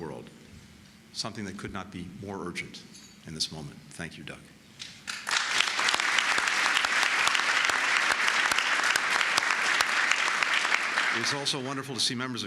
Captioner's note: applause